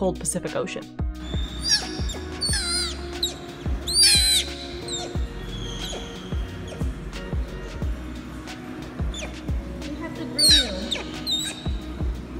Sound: Tazlina vocalizing

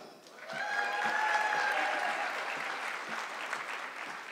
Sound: audience clapping

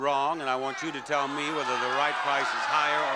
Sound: audience yelling

